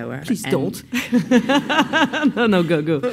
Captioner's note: laughs